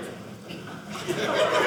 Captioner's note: audience laughing